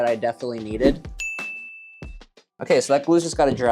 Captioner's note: smile pinging